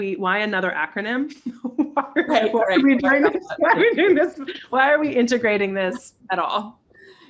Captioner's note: laughter